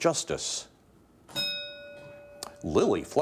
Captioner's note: bell dinging